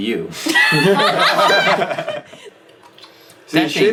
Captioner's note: all laughing